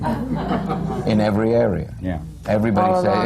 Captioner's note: laughter